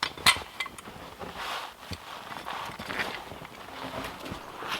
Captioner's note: log hook clanking